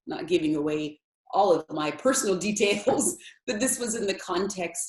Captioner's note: laughs